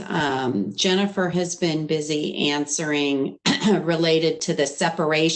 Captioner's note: clears throat